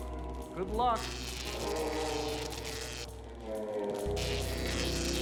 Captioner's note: zapping